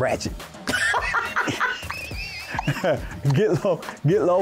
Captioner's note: laughing